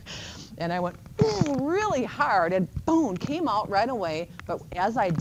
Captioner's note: laughing; grunts